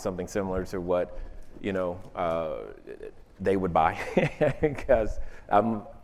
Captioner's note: laughs